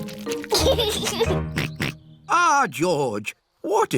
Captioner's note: snorts